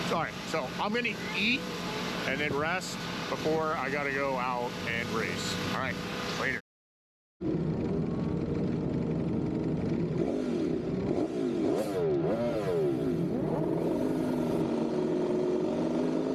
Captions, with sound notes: sorry, so I'm gonna eat and then rest before I gotta go out and race, all right, later. (engine roaring)